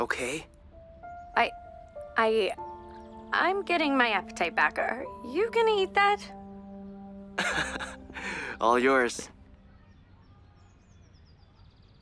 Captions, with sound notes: -OK? -I... I... I’m getting my appetite back. Are you going to eat that? [Brax chuckles] All yours.